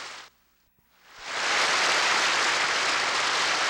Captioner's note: applause